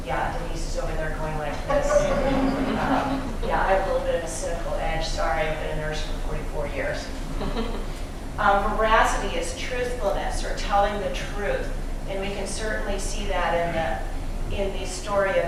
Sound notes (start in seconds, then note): 1.7 laughter